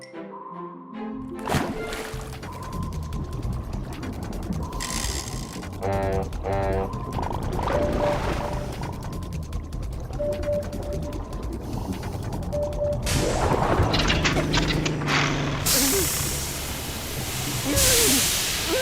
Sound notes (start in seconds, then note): 5.8 honking; 9.6 mechanical clattering; 13.3 engine sputters; 16.9 whimpering